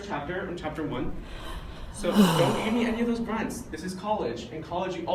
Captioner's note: sighs